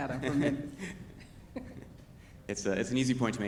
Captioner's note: both laughing